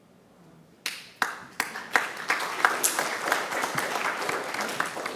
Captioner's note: attendees clapping